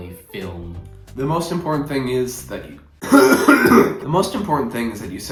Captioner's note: coughs